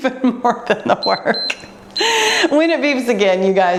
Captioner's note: laughs; timer beeps